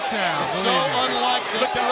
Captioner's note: crowd chatter